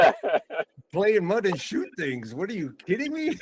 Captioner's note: laughing